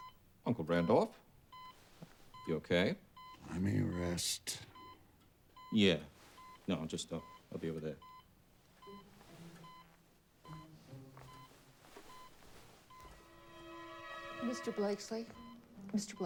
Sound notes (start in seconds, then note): 9.5 medical equipment beeping